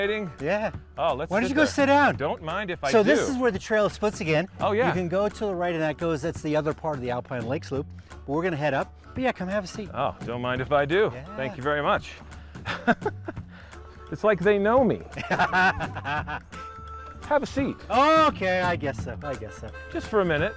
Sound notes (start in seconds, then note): 15.0 laughing